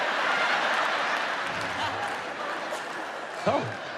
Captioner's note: audience laughs; audience claps